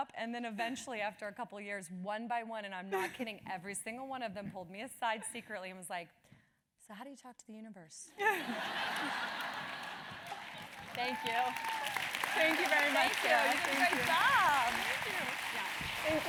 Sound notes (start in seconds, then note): 8.2 laugh; 11.7 applause